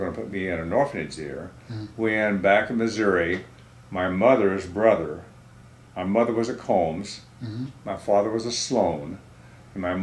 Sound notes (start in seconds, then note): none